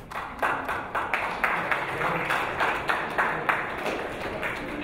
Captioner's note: audience applauding